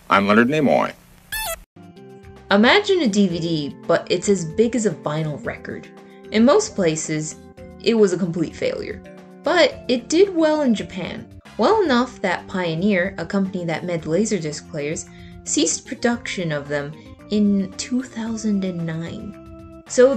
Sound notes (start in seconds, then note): 1.3 shocked beep boops